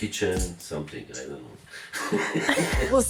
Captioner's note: laughs